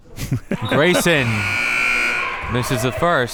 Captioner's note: whistle tweeting